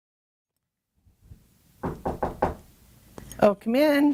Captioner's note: knocking